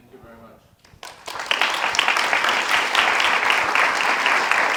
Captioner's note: audience applauding